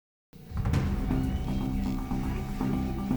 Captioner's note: machines whirring; suspenseful music; surgeons murmuring